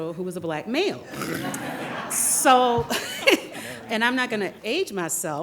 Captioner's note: audience laughing